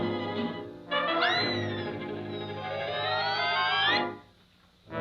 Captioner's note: lamp whizzing